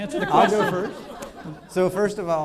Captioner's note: laughing